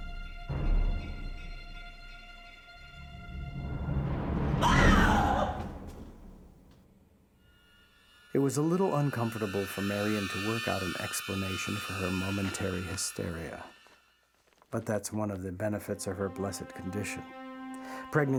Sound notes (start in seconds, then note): 0.0 foreboding music; 4.6 screaming